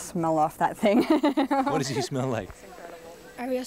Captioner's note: laughing